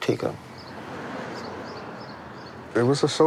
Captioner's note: birds chirping